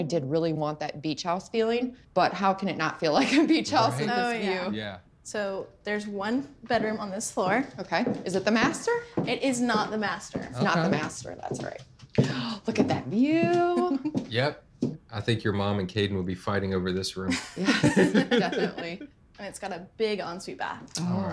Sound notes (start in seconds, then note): 13.6 laughs; 17.3 everyone laughs